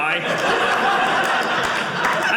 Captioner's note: audience laughing